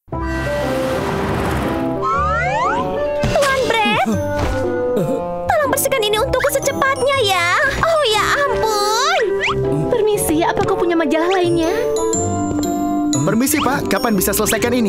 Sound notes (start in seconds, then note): 0.2 cheerful music; 4.7 Master Bread groans